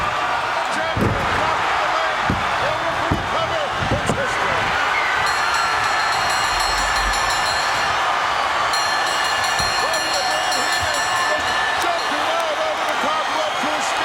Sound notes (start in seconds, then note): 5.0 audience cheering; 5.2 bell ringing